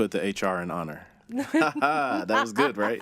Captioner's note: laughing